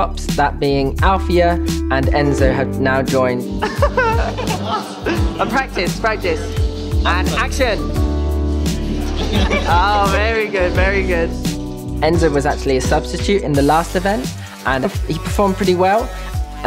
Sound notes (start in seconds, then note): 3.6 laughs